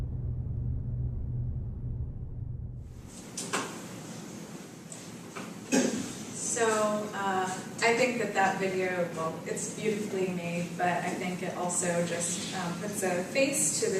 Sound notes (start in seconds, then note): 5.6 cough